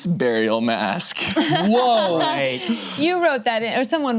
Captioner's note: laughs